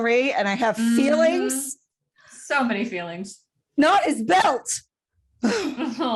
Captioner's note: sighs